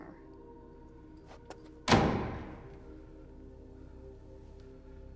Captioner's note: door slams